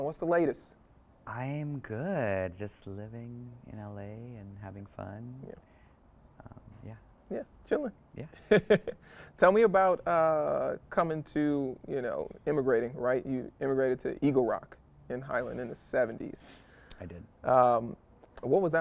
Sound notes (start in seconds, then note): 8.4 chuckles